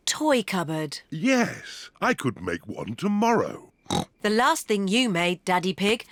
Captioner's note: snorts